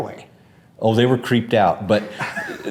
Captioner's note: laughs